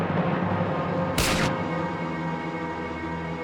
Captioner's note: gunshot firing